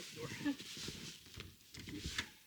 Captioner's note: laughs